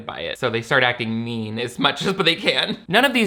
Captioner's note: laughs